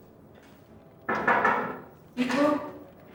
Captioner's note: knocking